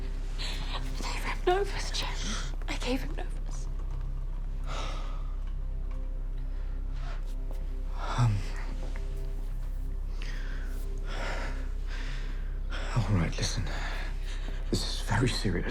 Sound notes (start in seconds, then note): 4.1 sighs; 13.4 sighs